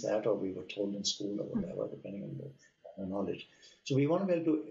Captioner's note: audio cutting out